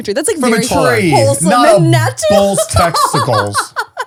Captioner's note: speaking in foreign language; laughing